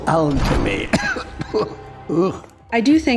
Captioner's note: cough cough